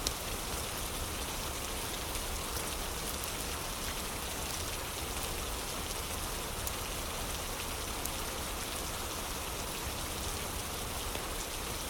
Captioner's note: fire crackling